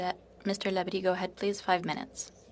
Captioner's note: speaking French